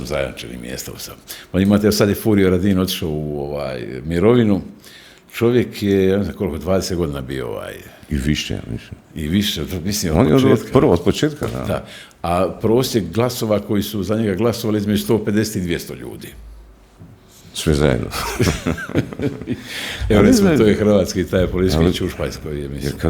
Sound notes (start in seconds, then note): 18.1 laughter